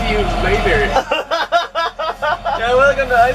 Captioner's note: laughter